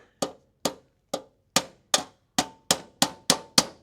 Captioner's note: hammering